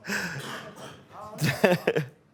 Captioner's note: laughs